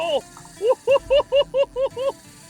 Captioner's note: laughs